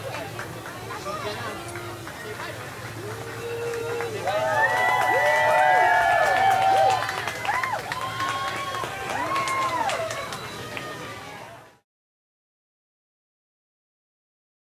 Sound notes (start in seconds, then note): 0.1 guests clapping; 4.1 guests cheering and applauding